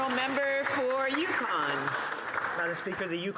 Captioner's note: some Applause